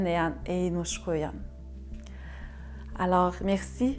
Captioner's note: speaking French